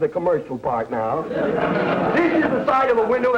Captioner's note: audience laughter